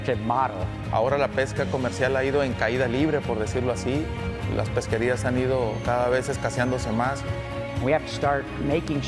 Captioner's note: speaking spanish